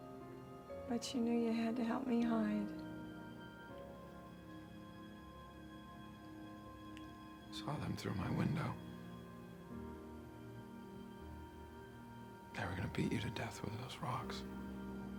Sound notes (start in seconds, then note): none